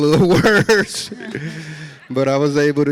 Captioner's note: audience laughs